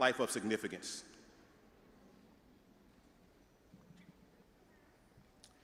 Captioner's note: audience murmuring